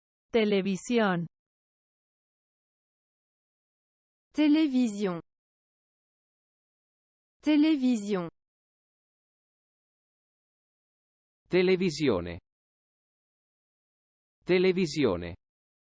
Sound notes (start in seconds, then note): 0.3 Spanish; 4.3 French; 7.4 French